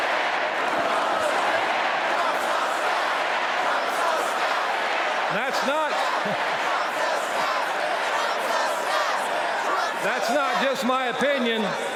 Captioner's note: chanting